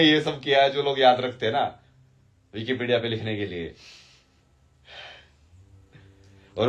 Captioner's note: none